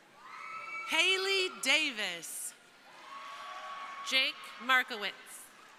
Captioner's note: crowd cheering; crowd cheering